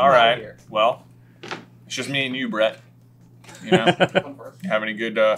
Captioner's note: chuckles